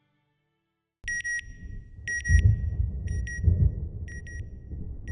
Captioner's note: beeping, thunder